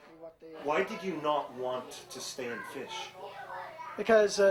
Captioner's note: voiceover